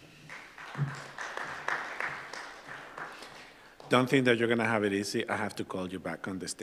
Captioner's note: applause